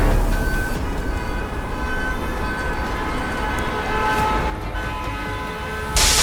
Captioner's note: fearful music; sirens blaring and car horns honking; sparks flash in the sky, car horns honking